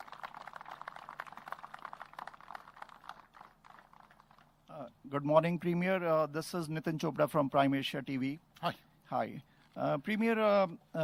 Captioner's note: applause